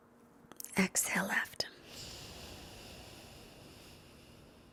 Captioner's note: exhales deeply